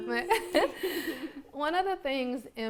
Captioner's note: laughs